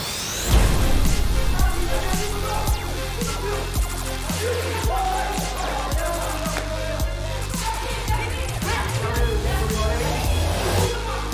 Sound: lasers and screams

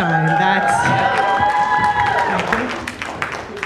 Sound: audience cheering, applauding

